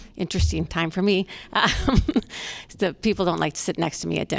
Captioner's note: laughter